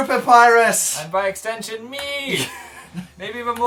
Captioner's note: laughs